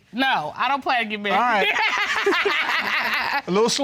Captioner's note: laughs